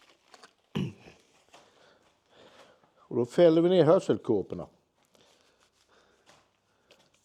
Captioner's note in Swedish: harklar sig